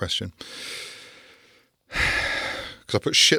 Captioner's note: sighs